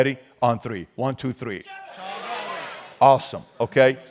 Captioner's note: crowd shouting